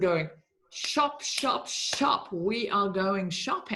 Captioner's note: hands clapping